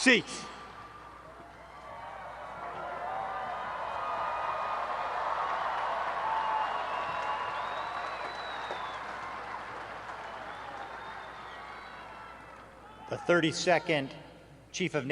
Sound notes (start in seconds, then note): 1.5 applause; 1.8 cheering